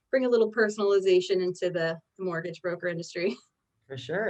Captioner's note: chuckles